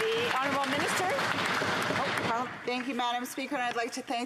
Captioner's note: some Applause